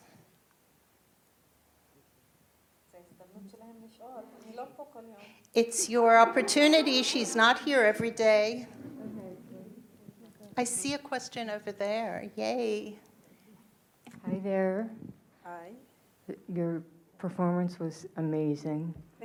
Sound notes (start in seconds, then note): 3.9 speaking in foreign language